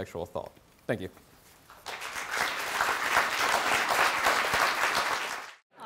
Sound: applause

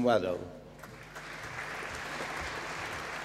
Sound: applause

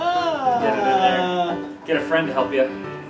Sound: very disgruntled noise

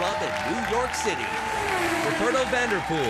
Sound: race car zooms

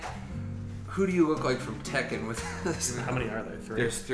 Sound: laughs

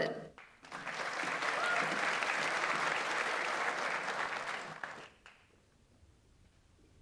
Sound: audience applauds; audience member cheers

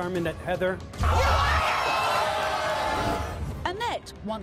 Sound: audience yelling

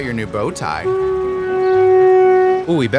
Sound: boat horn

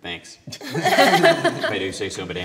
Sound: laughter

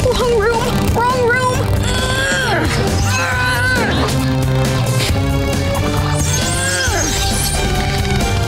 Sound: grunting

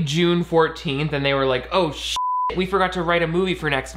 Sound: beeping

